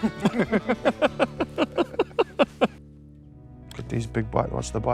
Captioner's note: pair laughing